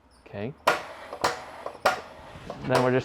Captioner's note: pump kicks on